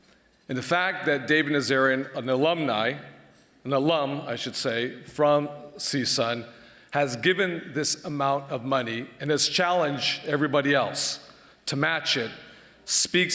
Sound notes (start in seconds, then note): none